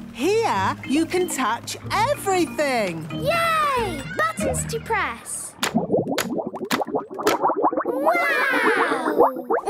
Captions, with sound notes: Here, you can touch everything! - Yay! Buttons to press! - (bubbling) - Wow!